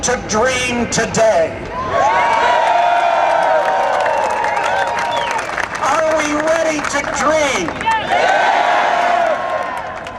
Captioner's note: cheers and Applause